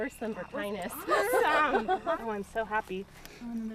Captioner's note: laughing